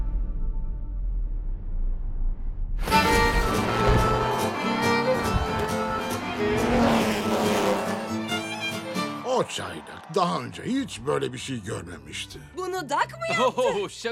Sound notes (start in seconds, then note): 5.9 engine roars